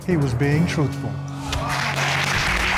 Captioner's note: applause